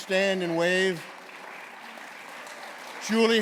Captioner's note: applause